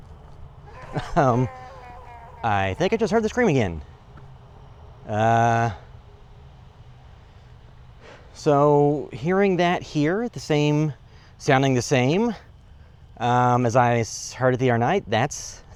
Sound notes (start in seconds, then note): 0.6 scream in the distance